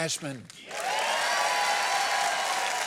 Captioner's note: applause